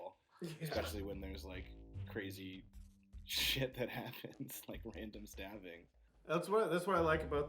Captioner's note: laughs